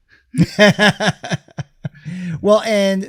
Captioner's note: chuckles